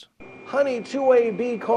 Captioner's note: buzzer